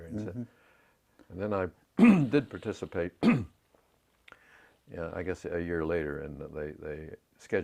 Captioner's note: cough